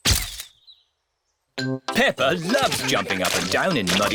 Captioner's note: camera clicks